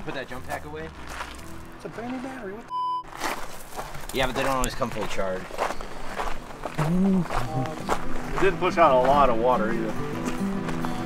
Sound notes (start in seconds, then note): 2.7 beep